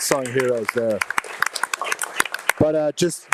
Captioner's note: audience applauding